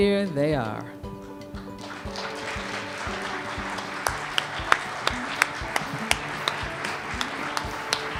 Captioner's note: cheers and applause